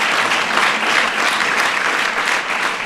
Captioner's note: applause